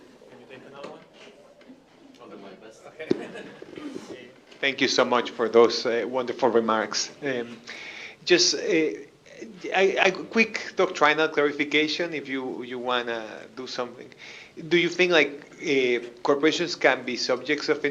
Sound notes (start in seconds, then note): 2.8 chuckles